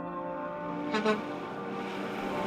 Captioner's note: truck horn toots